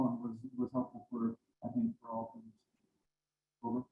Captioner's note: speaking faintly